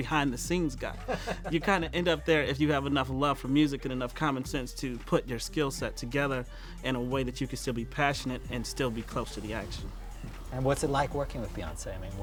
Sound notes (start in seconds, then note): 0.9 laughter